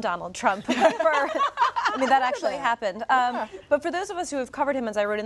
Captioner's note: laughter